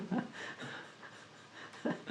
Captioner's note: laughs